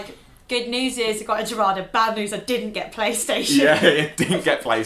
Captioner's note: laughing